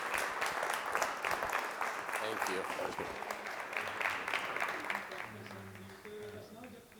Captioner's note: applause